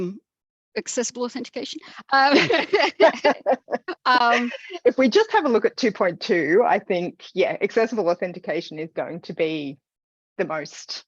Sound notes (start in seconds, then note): 2.4 laughs